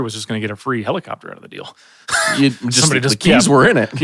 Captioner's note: chuckles